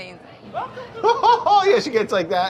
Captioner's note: imitates Julia's laugh